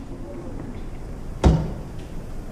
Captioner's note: knock